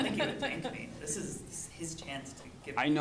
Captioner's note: laughing